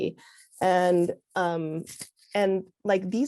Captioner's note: none